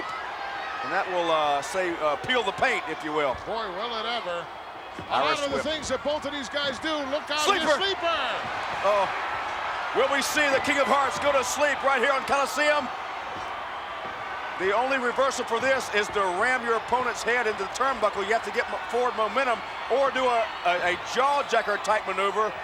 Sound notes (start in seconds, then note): 7.8 audience cheering